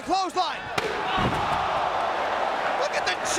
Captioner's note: chair smacks